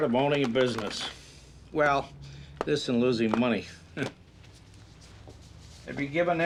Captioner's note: scoffs